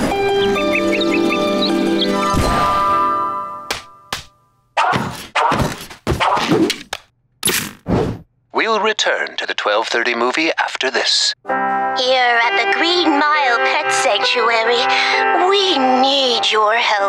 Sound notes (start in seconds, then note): none